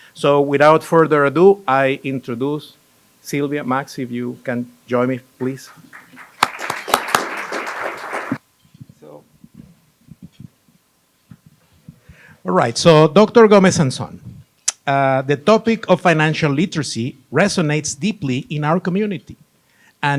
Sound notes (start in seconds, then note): 5.4 applause